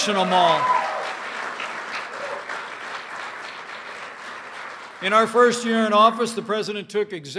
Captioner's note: applause